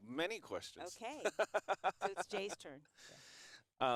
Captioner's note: laughs